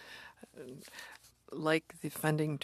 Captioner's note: speaking French